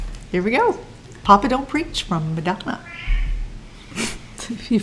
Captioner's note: meow